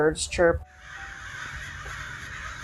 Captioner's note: crows cawing loudly